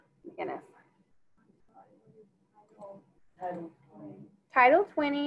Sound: student speaking faintly

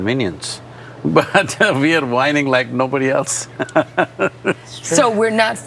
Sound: laughs

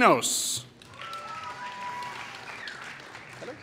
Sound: applause

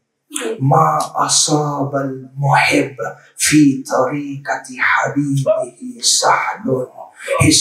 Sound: Arabic

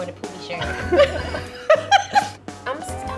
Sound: both laughing

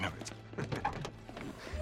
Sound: laughs

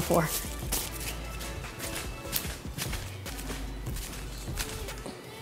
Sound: papers fluttering

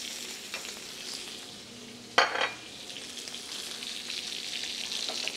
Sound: sizzling

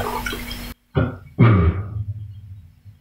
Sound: burp

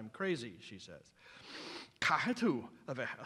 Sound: non-english speech

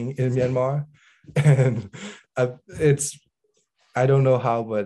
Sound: he chuckles

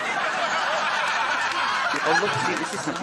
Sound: audience laughs

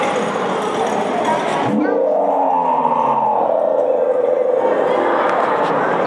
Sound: saber-tooth tiger roars again

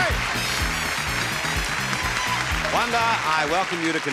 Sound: crowd clapping

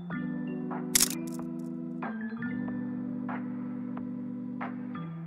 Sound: camera clicking

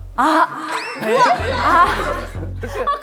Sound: hahaha

